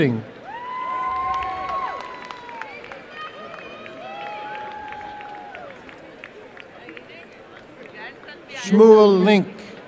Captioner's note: applause and cheering